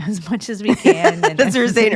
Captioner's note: laughs